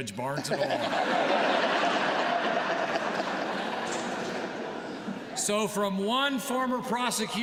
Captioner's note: laughter